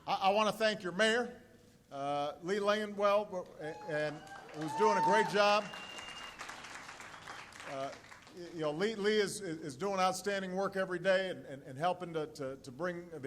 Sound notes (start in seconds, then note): 5.5 applause